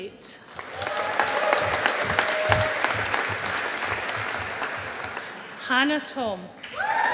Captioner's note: audience applauding